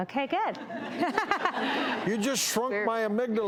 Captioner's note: laughter